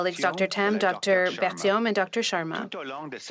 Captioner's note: speaking French